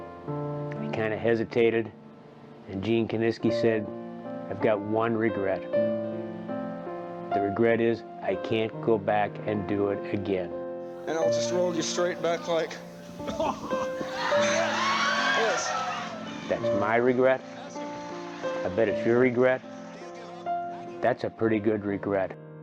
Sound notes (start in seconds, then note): 13.2 audience cheering